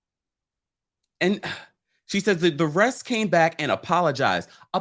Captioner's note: sighs